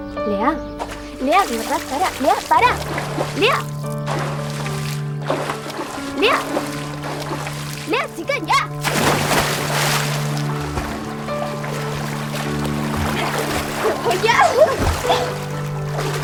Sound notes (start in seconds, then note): 3.6 splash; 9.4 splash